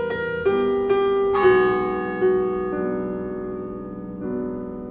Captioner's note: a funeral toll. piano continues